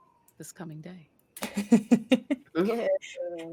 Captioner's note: laughing